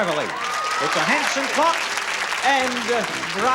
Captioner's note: applause